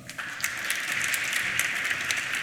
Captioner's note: applause